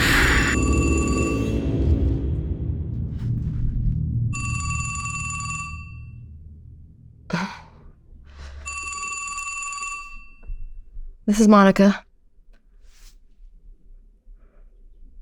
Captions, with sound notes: (phone ringing) This is Monika.